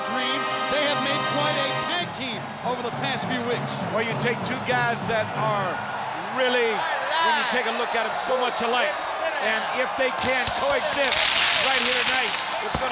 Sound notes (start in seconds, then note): 10.2 fireworks booming